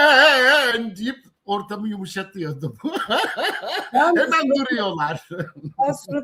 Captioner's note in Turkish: kahkaha